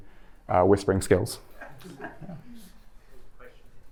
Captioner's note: chuckles